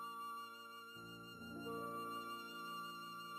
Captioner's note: none